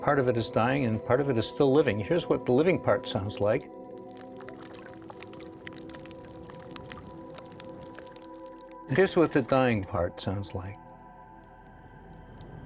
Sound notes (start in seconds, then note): 3.9 water lapping